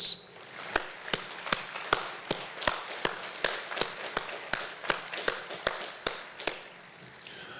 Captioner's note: applause